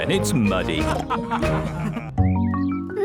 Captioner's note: all laughing